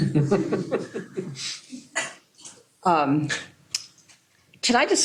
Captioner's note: laughter